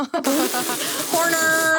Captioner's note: laughing